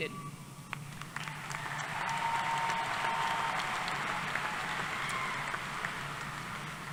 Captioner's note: applause